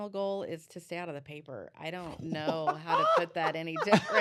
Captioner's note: laughter